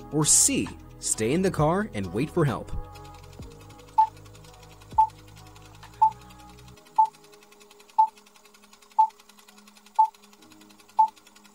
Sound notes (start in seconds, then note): 3.4 projector whirring; 4.2 beeping